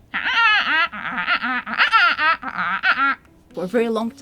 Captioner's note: squawking